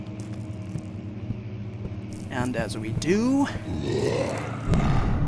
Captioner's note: monster growl